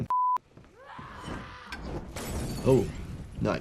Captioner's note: villager screams